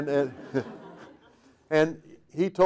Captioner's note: audience laughing